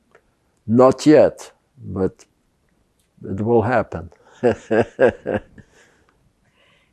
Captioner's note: laughing